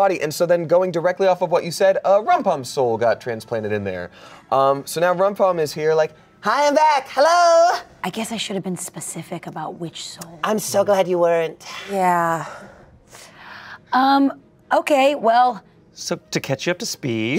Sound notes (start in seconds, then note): none